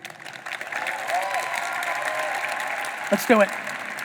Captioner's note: audience applauding